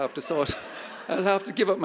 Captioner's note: audience laughing